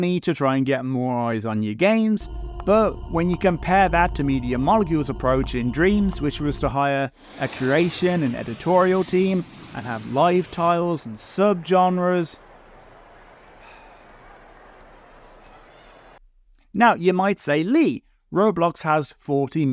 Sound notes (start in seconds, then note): 13.6 sigh